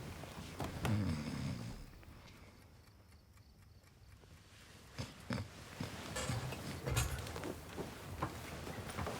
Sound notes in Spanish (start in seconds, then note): 0.9 Oscar ronca